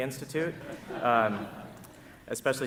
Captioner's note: audience laughing